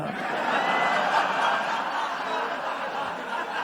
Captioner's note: laughter